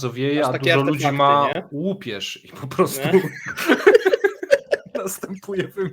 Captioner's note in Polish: śmiech